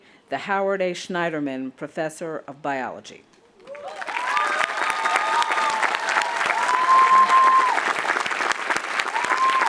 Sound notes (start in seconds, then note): 3.6 audience applauding and cheering